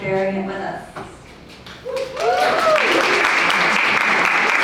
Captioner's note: audience applauds